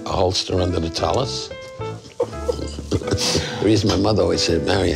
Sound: laughing

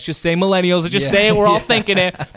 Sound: laughs

